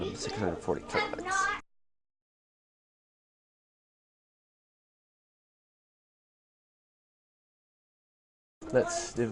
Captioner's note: silence